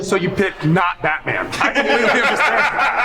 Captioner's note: group laughs